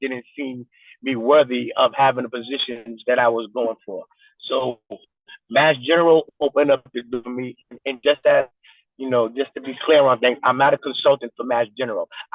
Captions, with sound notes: didn't deem me worthy of having the positions that I was going for. So Mass General opened up (distorted recording) for me. And, you know, just to be clear on things, I'm not a consultant for Mass General.